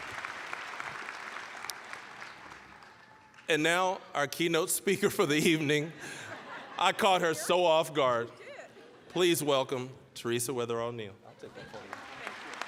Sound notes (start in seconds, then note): 0.0 applause, cheering; 0.0 applause; 5.8 all laughing; 11.6 applause